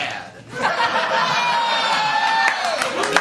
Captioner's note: laughter